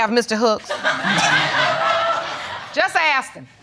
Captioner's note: audience laughing